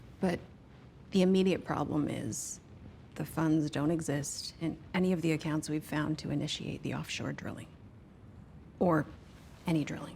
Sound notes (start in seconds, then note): none